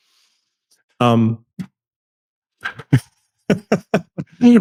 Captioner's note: laughing